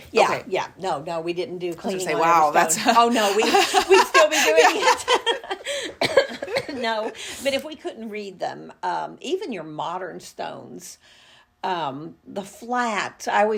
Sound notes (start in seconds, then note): 2.5 laugh